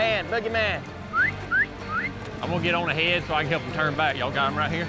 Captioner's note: whistles